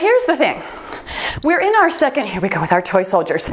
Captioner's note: timer beeps